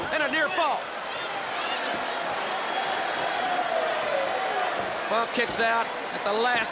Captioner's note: crowd chatter